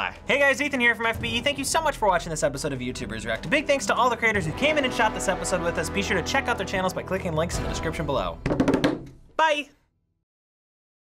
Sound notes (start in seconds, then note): 0.0 drumming on table; 8.4 drumming on table